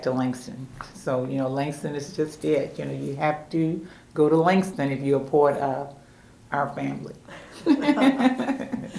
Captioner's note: laughter